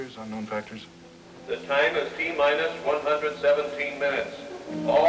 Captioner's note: man on PA